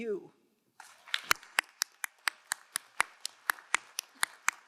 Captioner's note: crowd applauding